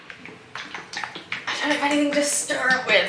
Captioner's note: shaking paint pot